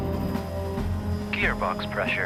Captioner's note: beeping